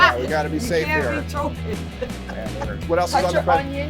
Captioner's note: laughs